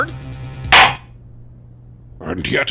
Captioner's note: gavel slams!